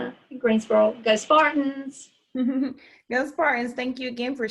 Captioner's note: giggling